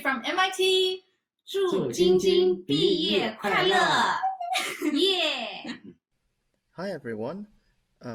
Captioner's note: non-english speech